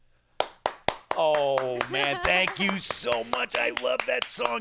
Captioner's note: claps